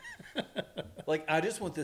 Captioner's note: laughing